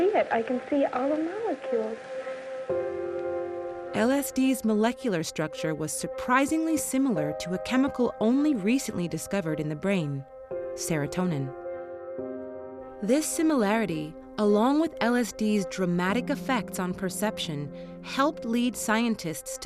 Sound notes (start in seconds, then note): none